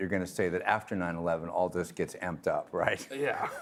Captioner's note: laughing